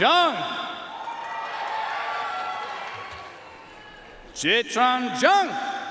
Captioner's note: audience cheering and applauding